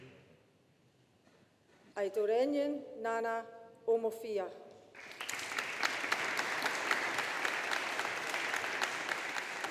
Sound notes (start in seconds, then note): 4.9 audience applauding